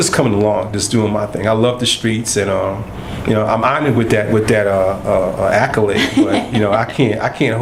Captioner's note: laughter